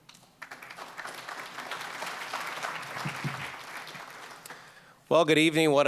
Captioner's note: applause